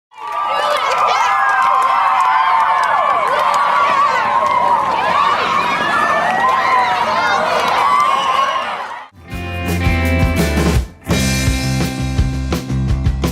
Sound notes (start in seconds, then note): 0.3 audience cheering; 9.2 upbeat music